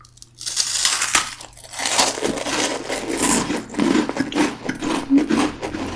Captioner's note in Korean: 바사삭